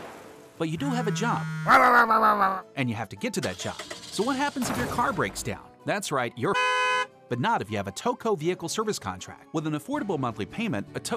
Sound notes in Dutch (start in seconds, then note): 1.6 yelling; 6.5 car honks